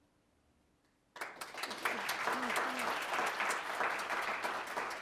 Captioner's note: applause